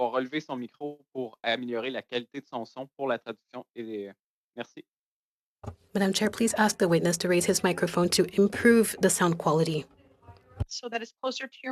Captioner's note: speaking French